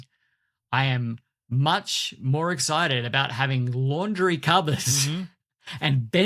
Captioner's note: chuckles